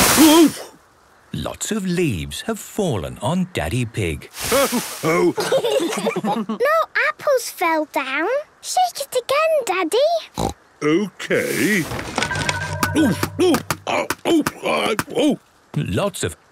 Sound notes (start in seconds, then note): 5.0 laughter; 10.3 snorting